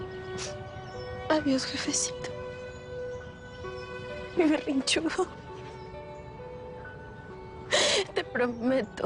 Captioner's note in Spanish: Sollozos